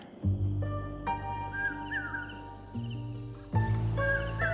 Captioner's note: birds chirping